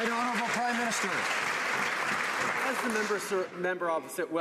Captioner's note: some Applause